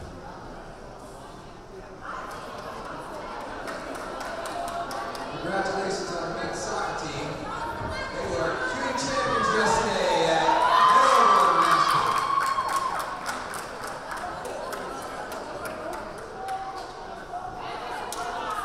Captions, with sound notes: Congratulations to our men's soccer team. They were our CUNY champions yesterday at The Oval! (crowd cheering) (crowd applauding)